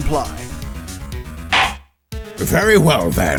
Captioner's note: gavel slams!